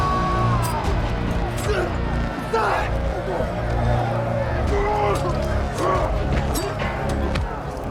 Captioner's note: tense dramatic music; grunting with effort; knives slicing